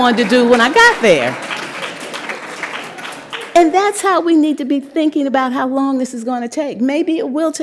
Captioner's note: applause